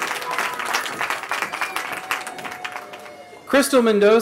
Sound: cheering

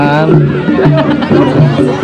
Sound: laugh

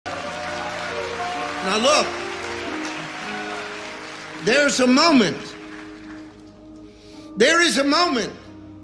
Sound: crowd applauding

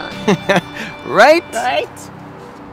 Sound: laughter

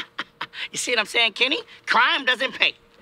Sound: laughing

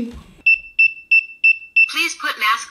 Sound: beeping

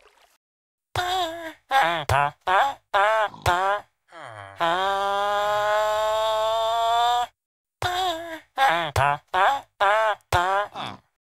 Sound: moaning in pleasure

